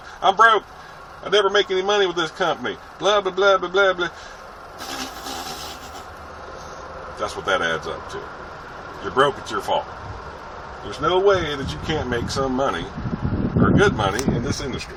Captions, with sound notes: "Im broke! I never make any money with this company! Bla x5" *Makes raspberry noises * That's what that adds up to... your broke? its your fault. There's no way you can't make some or good money in this industry